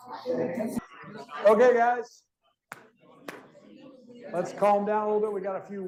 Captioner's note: claps